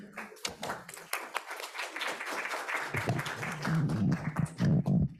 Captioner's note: audience applauds